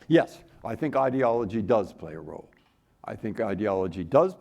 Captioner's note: none